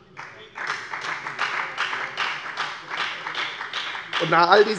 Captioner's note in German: Beifall bei der FDP